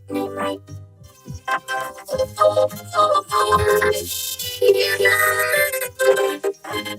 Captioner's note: voice glitching, stuttering continuously